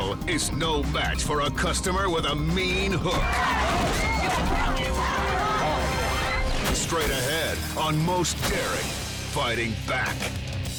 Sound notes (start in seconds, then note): 3.1 chaotic screams